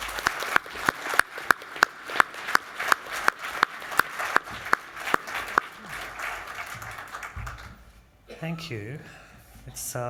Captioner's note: applause